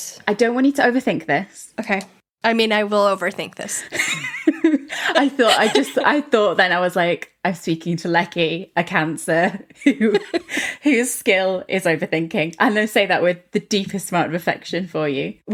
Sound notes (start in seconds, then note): 3.9 laughing